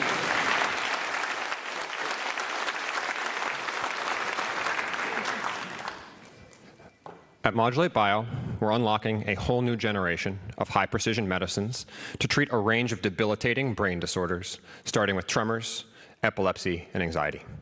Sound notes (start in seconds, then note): 5.4 applause